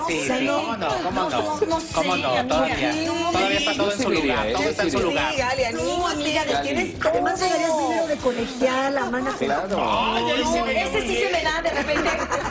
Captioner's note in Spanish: risas